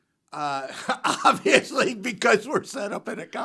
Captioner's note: laughs